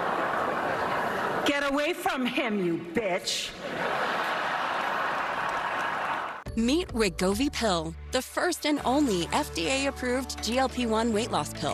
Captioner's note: laughter